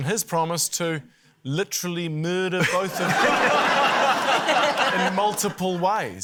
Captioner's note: laughter